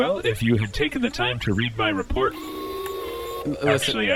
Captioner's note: C-53 beeps